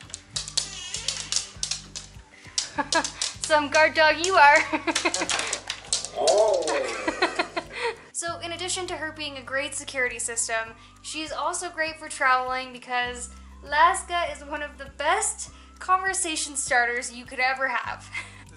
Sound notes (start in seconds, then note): 4.6 laughter